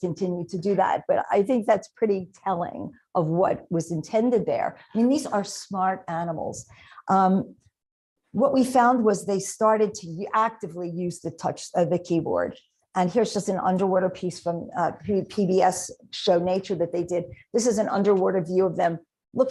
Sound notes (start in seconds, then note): none